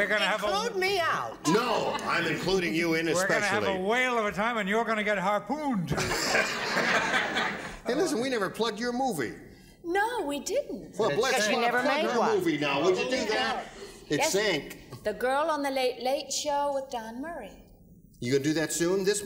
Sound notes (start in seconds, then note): 5.9 laughter